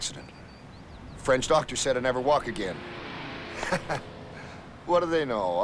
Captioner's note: laughs